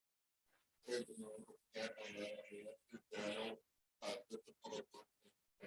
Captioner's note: faintly speaking